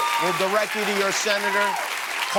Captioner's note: cheers and applause